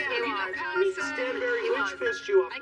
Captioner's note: overlapping chatter